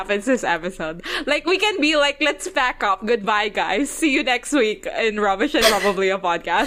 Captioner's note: laughs